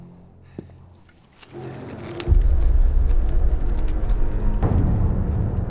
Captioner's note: footsteps thudding